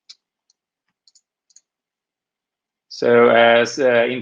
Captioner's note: keyboard clanking